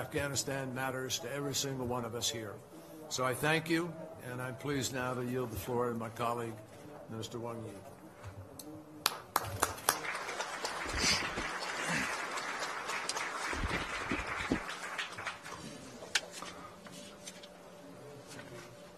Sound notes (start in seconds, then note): 14.0 applause